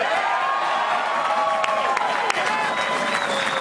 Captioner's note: applause